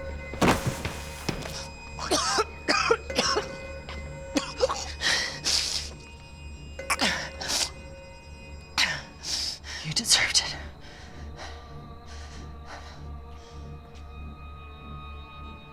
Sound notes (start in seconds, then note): 1.4 coughing